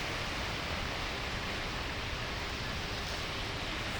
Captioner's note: water rushing